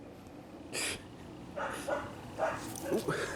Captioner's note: laughing